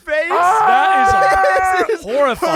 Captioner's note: yells